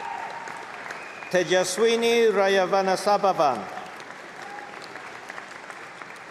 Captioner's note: applause